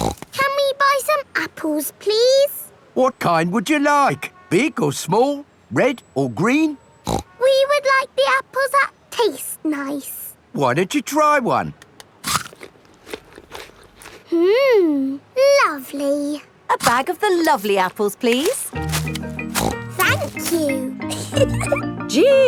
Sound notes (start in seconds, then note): 0.0 snorts; 7.0 snorts; 12.2 crunches; 18.8 snorts; 21.0 giggles